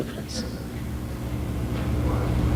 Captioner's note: laughing & laughter